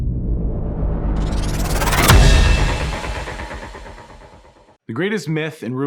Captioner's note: loud dramatic noise